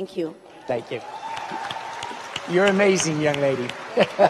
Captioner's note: audience cheers and applauds; laughs